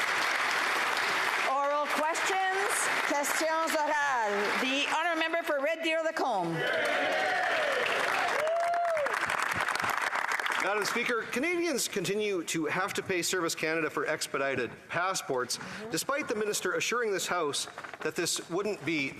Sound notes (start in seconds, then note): 0.0 some Applause; 6.1 speaking French; 11.0 some Applause